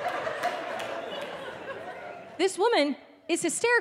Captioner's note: audience laughing